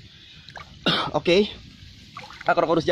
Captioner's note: cough